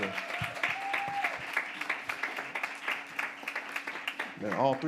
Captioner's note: audience applauds